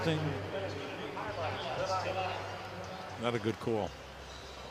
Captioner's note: pa announcement